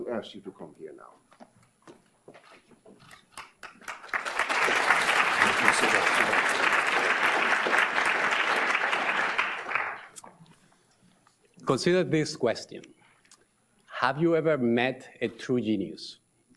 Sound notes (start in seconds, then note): 3.3 audience applauds